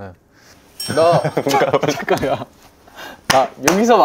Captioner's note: the sound effect of feeling the chill by instinct